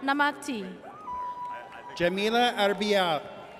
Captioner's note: audience cheers